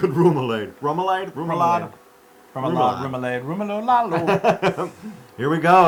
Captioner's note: laugh